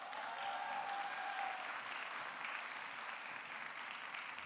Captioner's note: audience cheering; audience clapping